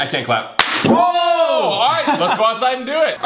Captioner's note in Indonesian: bertepuk tangan